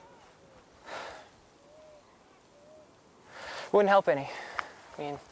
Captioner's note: Jack sighs